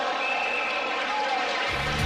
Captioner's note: crowd cheering